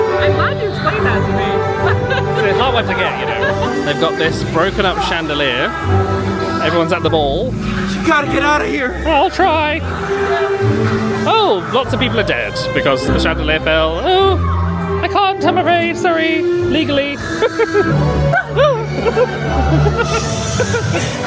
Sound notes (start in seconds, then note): 16.5 chuckles; 19.1 laughing